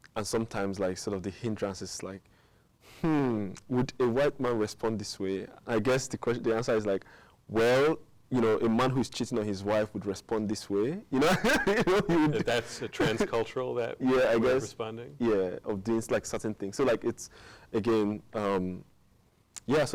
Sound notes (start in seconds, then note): 11.2 laughing